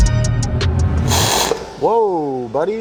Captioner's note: welder crackling